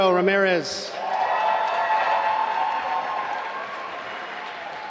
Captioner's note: applause